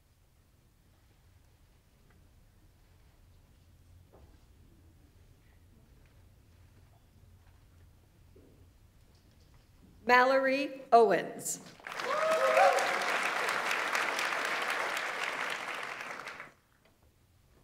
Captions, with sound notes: Mallory Owens. (audience applauds) (audience members cheer)